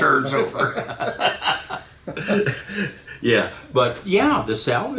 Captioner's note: laughing